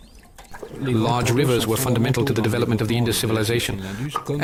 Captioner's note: French spoken audio